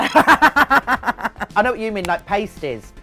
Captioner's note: both laughing